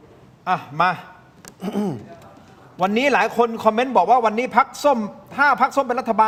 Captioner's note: clears throat